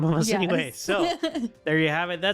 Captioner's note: laughter